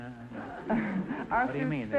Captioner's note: audience laughter